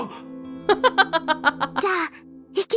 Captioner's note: chuckles